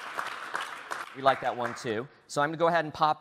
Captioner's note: applause